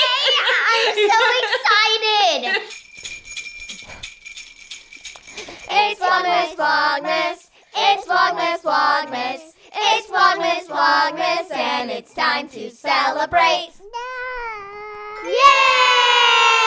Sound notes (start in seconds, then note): 2.4 bells jingling